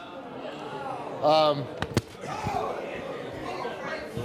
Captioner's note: audience murmurs